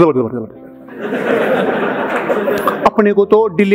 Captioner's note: laughing